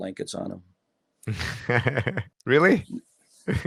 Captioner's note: laughs